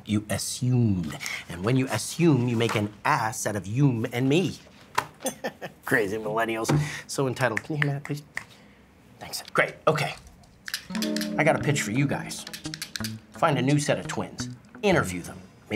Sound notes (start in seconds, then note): 5.2 laughs